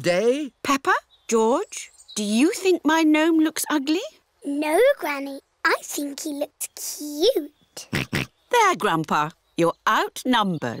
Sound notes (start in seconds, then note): 7.9 oinks